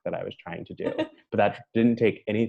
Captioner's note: laughing